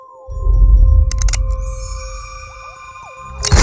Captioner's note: soft mysterious music; gun cocks